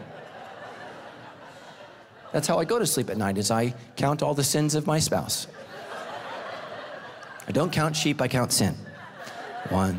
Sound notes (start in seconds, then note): 0.0 congregation laughing; 5.2 congregation laughing